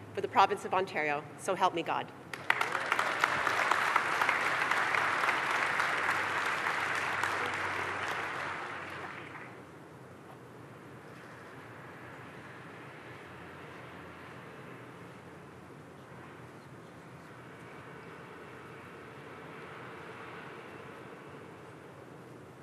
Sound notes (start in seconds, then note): 8.2 applause